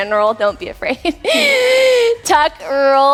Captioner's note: wheezing laugh